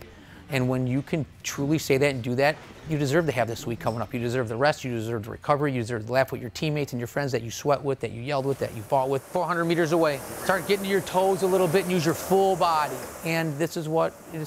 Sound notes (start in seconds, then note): none